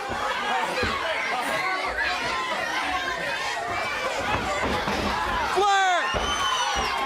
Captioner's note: crowd chatter